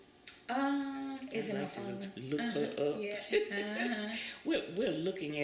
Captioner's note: laughs